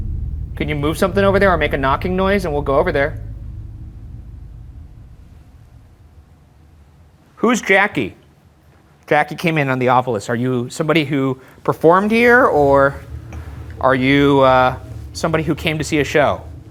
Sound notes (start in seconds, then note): none